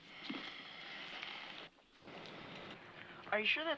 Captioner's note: exhales